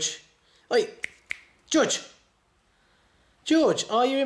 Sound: snapping fingers

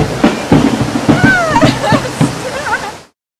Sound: laugh

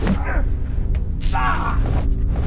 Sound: shock

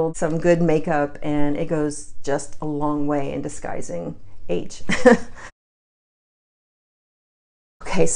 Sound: chuckles

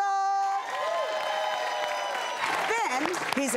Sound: audience applause

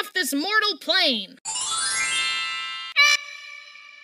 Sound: magical sparkles

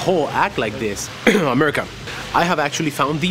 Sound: fake coughs

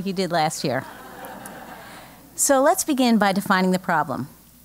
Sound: laugh

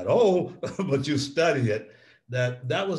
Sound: laughs

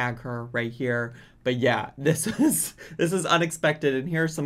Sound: laughs

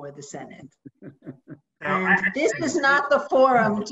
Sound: laughs

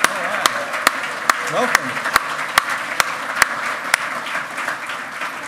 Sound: loud clapping

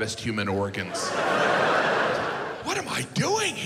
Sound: audience laughs

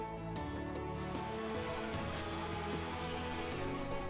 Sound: chainsaw

